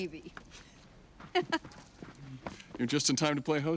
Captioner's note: laughs